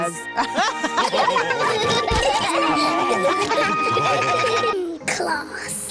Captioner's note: all laugh